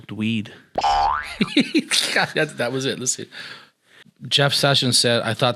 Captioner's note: laughing